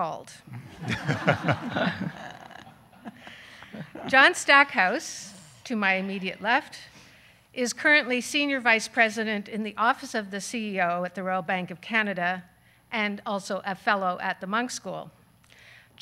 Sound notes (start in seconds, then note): 0.6 audience laughing